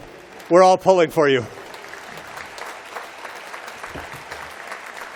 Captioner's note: applause